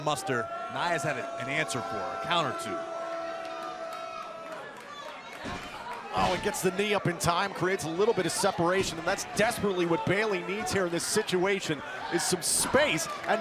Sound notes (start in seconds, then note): 3.2 crowd cheering